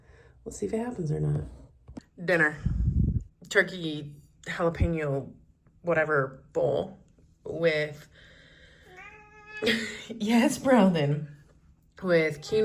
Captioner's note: meow